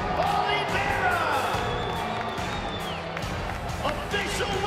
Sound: crowd cheering

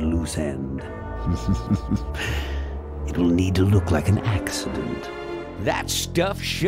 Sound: chuckles

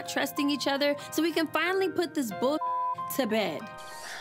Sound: beep

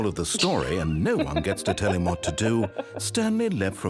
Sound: laughter

